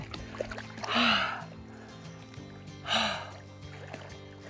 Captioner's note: exhales